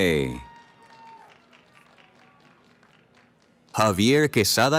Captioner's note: cheering